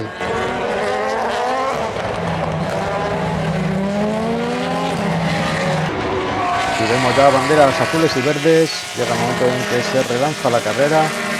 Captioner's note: motors